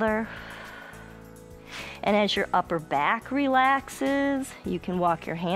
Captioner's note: exhales